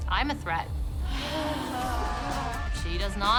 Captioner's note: sighing deeply